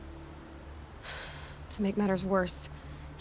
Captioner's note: sigh